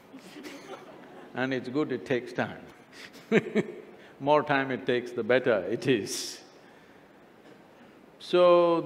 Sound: laughs; laughs

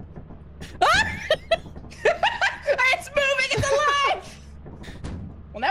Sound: laughs

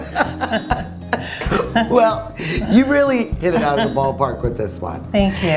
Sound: laughs

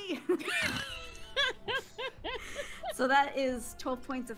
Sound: laughing

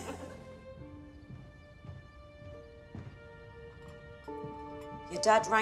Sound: group laughs; footsteps ascending

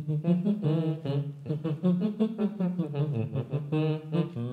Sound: humming " "; both humming

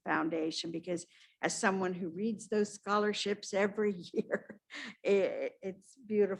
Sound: laughs

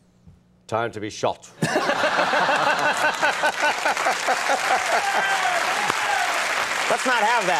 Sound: laughter and applause

